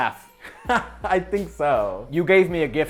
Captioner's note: chuckling